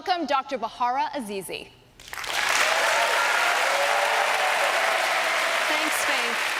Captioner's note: applause